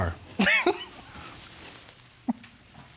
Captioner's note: chuckles